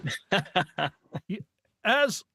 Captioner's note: laughing